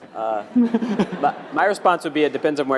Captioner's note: laugh